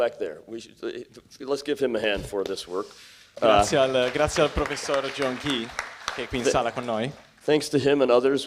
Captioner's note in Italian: applausi